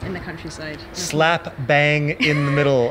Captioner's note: laughs